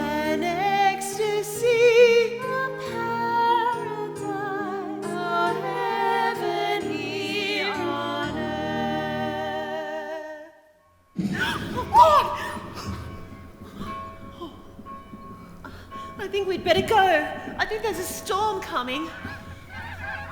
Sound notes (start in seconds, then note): 11.3 sudden crack of thunder; 12.3 bells sounding; 18.7 frightened sea birds calling